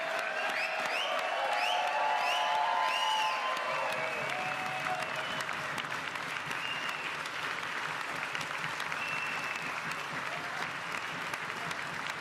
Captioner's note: applause